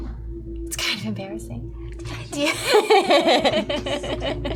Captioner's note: laughter